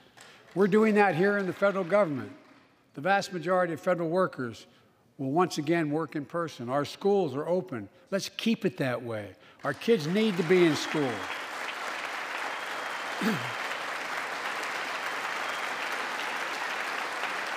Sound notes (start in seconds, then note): 11.3 applause